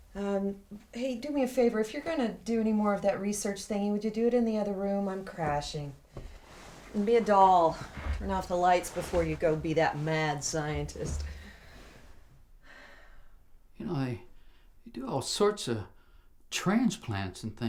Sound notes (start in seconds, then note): 12.7 sighs